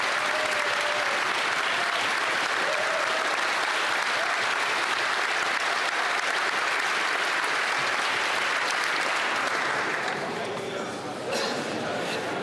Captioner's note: cheering and applause